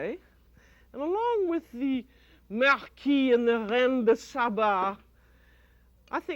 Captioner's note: speaking french